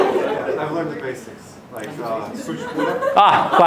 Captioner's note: speaks Romanian